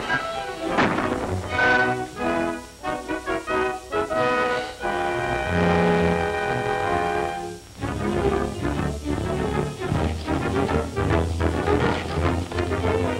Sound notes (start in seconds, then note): 2.6 gun shots